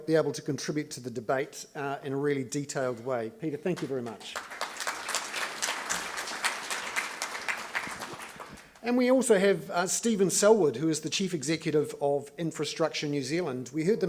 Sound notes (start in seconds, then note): 3.7 audience clapping